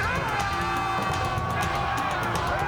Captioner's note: yelling